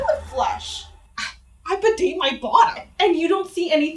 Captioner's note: scoff